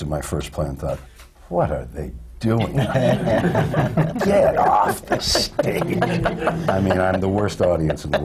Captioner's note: laughter